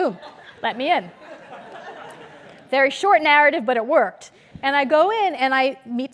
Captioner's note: laugh